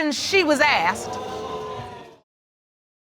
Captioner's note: audience exclaims